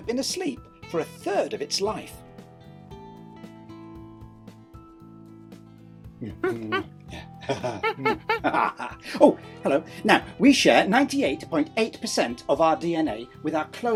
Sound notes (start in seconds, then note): 5.8 chuckling; 6.3 chimp hooting quietly